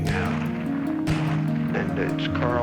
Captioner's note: gun firing